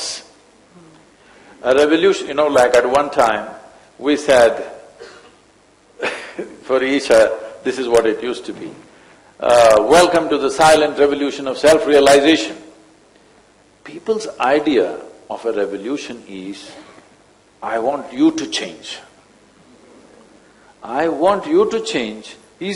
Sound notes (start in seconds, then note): 5.4 laughs